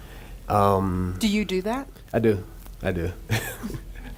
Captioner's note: laughs